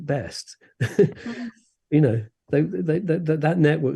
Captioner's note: laughs